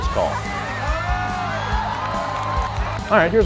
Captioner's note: crowd exclaiming